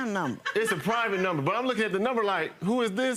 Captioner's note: female laughing